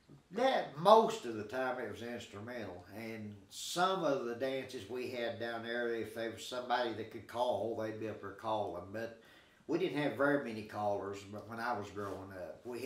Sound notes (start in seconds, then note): none